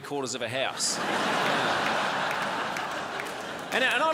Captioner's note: crowd laughs